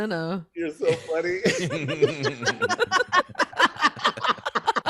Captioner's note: laughing